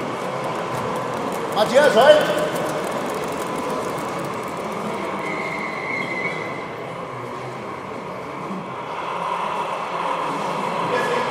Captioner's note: brake squealing